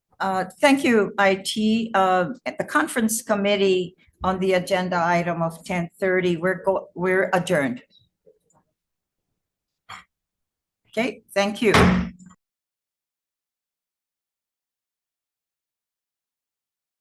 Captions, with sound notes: - Thank you IT. The conference committee on the agenda item of 10:30. We're adjourned. Okay. Thank you. (gavel banging)